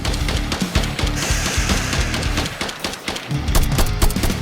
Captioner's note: scorpion hisses